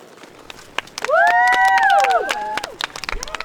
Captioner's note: girls applauding; girls cheering